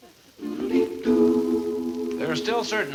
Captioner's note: melodious chimes